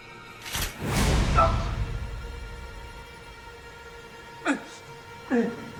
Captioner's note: ominous music; man groaning; man grunting